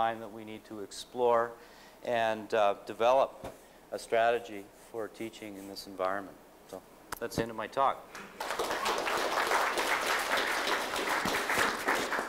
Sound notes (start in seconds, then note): 8.1 applause